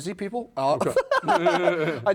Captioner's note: laughing